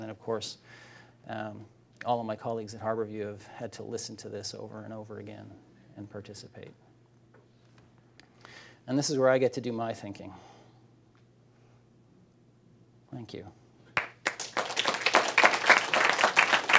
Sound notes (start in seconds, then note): 13.9 applause